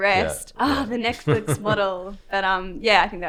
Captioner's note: groans